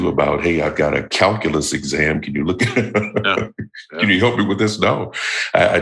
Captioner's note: chuckle